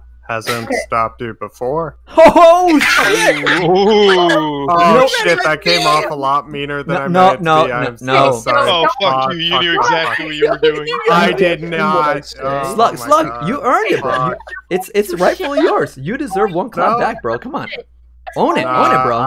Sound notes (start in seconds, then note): 2.1 laughs; 10.7 laughs